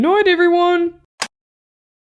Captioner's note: click!